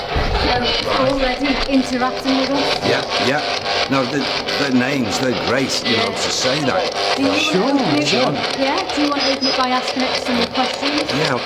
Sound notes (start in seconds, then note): 3.8 static hisses